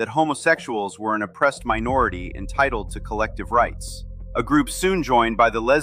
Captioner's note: thoughtful